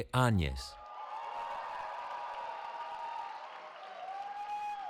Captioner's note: cheering